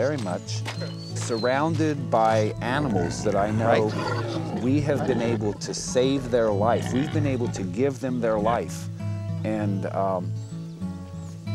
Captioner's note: pig grunting